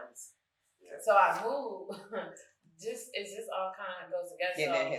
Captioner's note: chuckles